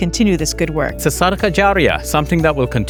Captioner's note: speaks in foreign language